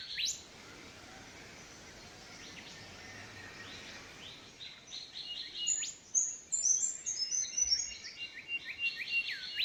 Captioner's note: birds chirps